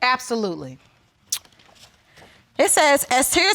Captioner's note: clicks tongue